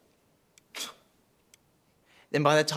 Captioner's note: Hamish scoffs